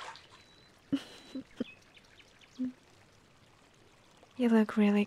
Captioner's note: chuckles